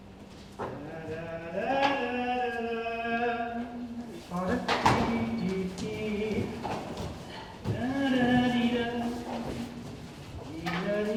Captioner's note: Morgan humming